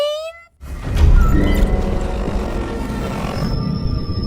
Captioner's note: suspenseful music plays; Kaufmo growling; distorted whooshing, ringing